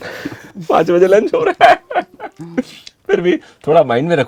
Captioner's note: laughter!!!